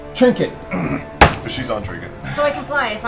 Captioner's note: groans